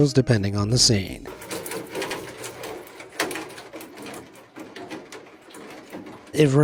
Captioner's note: water drops clanks